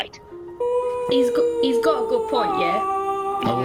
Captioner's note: OOOOOOooooahh